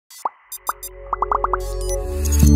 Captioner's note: bubbles popping; dynamic music